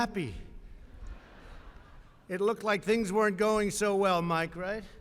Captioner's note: laughter